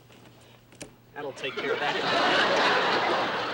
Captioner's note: laughter